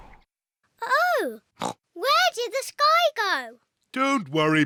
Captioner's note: oinks